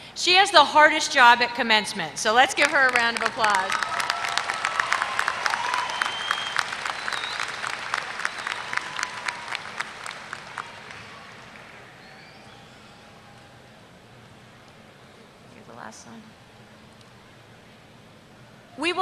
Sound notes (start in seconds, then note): 2.6 applause